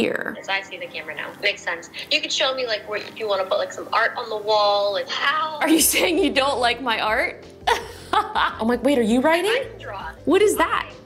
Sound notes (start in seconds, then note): 7.7 laughs